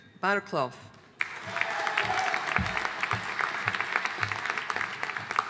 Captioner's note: audience applauding